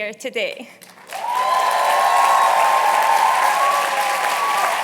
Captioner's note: cheers and applause